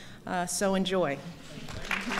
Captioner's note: applause